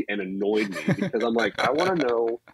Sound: laughs

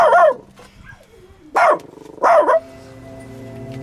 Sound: bark; barks; barks

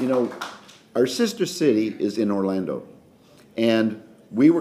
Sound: applause

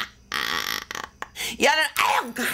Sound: laughs

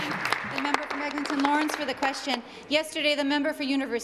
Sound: applause

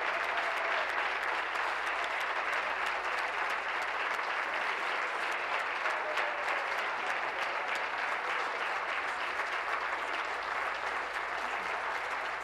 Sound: applause; cheering

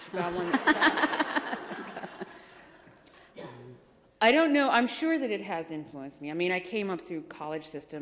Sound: laughter

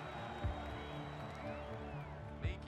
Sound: pensive instrumental music; audience cheering

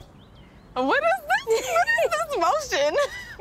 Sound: laughs

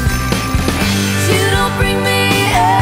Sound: phone ringing

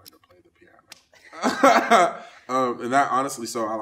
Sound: laughs

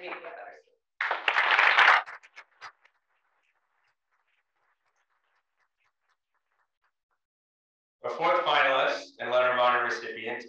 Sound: applause

